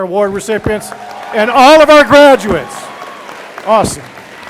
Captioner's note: audience applauding